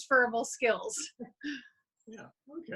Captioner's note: chuckles